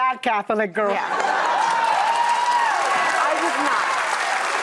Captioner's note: audience applauds